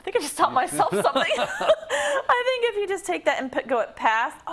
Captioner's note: laugh